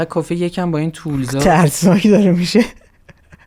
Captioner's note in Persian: خنده